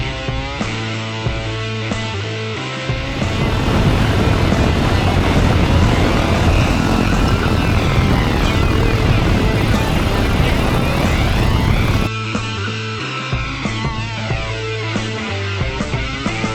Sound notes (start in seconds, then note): 3.0 motors revving